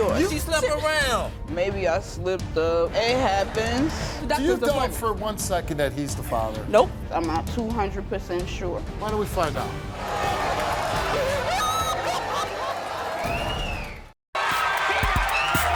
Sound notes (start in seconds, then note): 9.9 crowd exclaims; 11.1 wailing